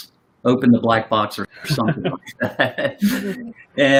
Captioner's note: chuckles